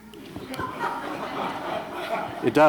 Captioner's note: laughter